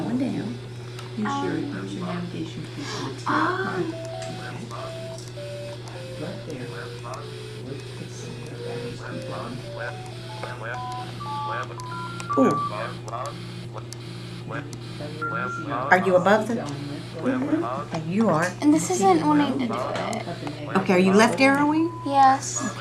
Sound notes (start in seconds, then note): 5.4 descending tones; 7.9 ascending tones